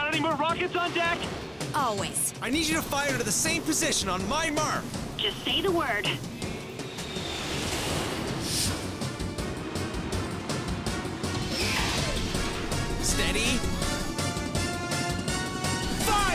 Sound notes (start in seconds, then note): 8.6 jet whooshes; 12.9 mechanical whir